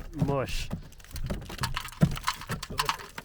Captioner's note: siding clattering